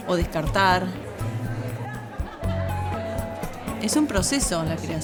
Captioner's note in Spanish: música percusión suave; murmullo de gente